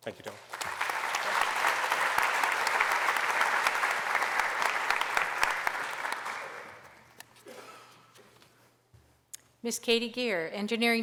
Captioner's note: applause